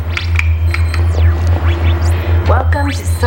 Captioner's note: beeping